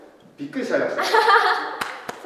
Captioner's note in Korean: 웃음